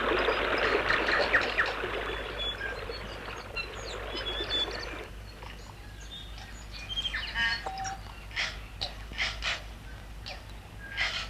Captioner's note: sound of birds chirping